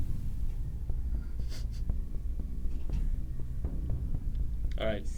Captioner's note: Jim giggles softly